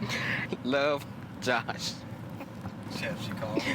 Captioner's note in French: gloussement